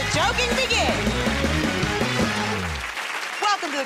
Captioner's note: cheers and applause